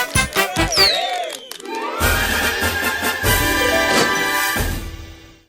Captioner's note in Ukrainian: оплески